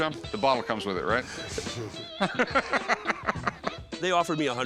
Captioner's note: laughing